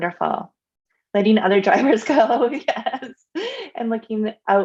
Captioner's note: laughs